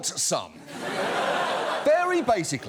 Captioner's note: audience laughs